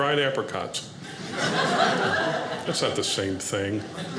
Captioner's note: audience laughing